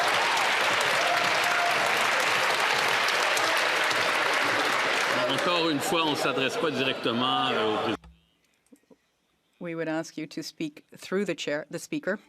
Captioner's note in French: applaudissements